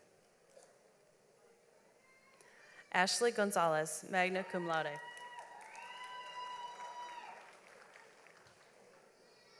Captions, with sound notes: Ashley Gonzalez, Nixon, magna cum laude. (audience applauds)